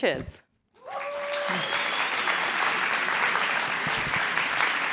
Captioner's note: applause